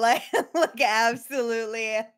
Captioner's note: laughs